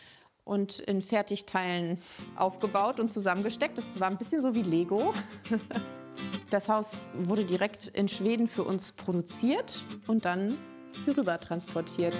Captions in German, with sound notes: und in Fertigteilen aufgebaut und zusammengesteckt. Das war ein bisschen so wie Lego. (Lachen) Das Haus wurde direkt in Schweden für uns produziert und dann hier rüber transportiert.